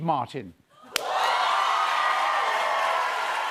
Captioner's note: cheers and applause